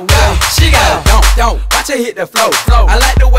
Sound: donk

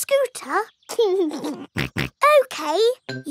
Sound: laughs and snorts

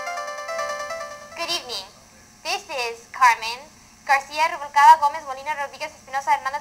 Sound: speaking Spanish

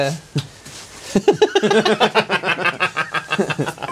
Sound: hearty Manly Laughter

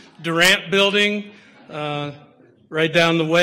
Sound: audience laughter

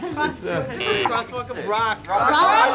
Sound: buzzer blares

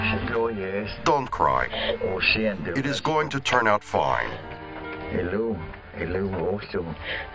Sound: Spoken Cherokee

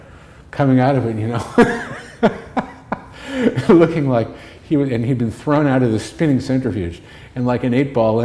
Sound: laughter

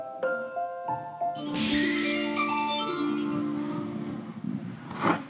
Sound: soon, a second alarm rings out again

